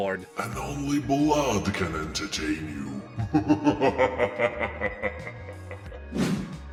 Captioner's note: laughs in demon